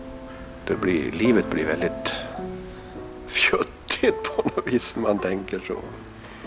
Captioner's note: chuckles